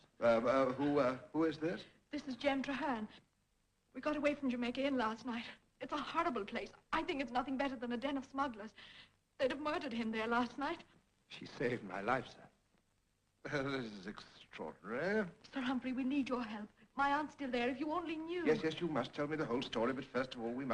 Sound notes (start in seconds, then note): none